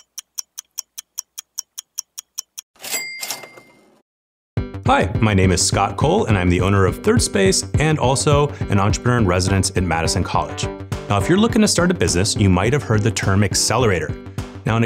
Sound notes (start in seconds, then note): 2.9 bell chimes